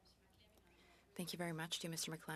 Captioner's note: speaking French